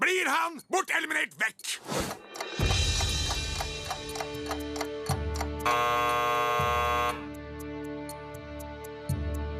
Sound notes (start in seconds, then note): 2.1 ticking; 5.6 alarm sounds